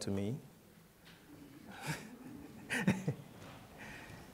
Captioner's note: laughter